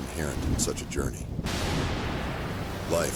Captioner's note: thunder booms